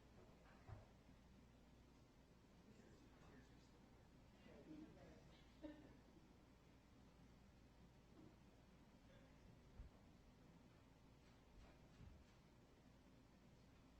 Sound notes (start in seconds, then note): 1.3 chuckling